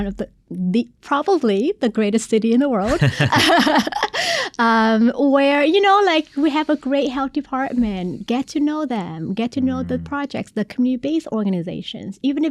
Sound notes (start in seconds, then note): 2.8 both laughing